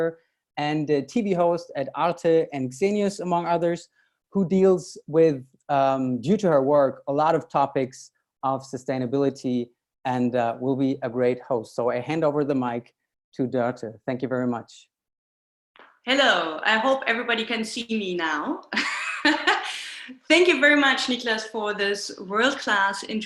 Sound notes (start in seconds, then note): 18.4 laughs